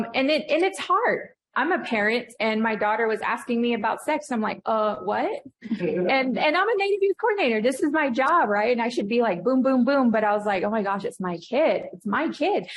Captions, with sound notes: And it's hard. I'm a parent and my daughter was asking me about sex. I'm like, "What?" [laughter] And I'm a Native youth coordinator. This is my job, right? And I should be like, boom, boom, boom. But I was like, "Oh my gosh, it's my kid.